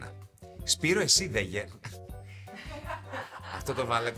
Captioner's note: laughs